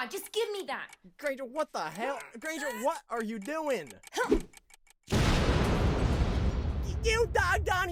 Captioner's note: sandwich explodes